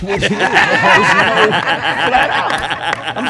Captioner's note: laughter drowns out